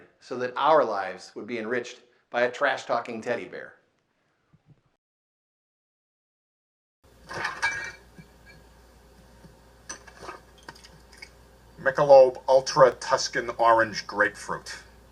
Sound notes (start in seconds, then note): 7.2 bottles clang